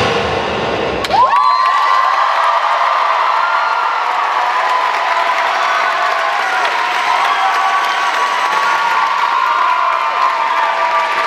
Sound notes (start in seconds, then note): 1.0 cheers and applause